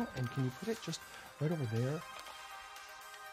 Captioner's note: speaks in english